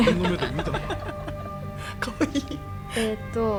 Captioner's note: laugh